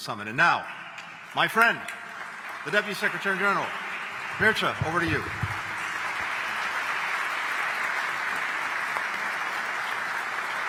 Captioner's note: applause